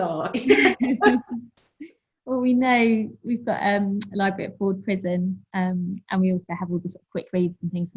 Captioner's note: laughs